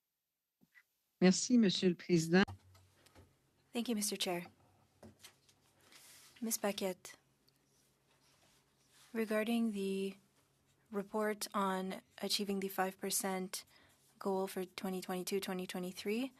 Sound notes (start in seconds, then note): 5.0 speaking French